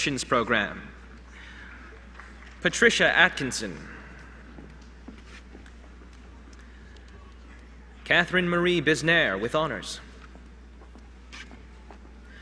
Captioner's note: applause